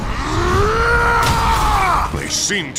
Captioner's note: shouting